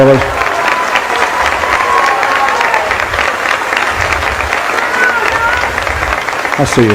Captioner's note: applause